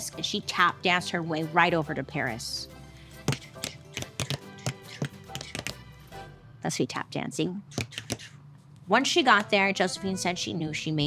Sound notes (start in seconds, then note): 3.9 tap dancing